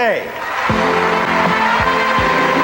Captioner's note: crowd cheering; jazz music